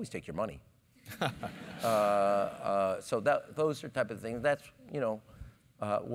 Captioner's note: laugh